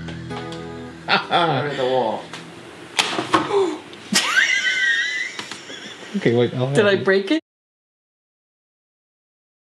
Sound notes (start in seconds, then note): 2.9 crack!; 3.5 voice gasps; 4.1 laughs